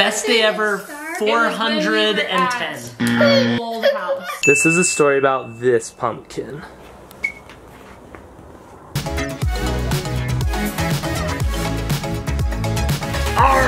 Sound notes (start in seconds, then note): 3.0 buzzer sounds; 4.4 ding; 9.4 upbeat techno music resumes; 13.4 pirate voice